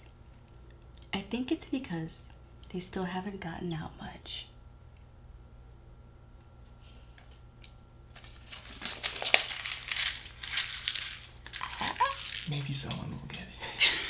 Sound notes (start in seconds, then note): 8.1 crumpling paper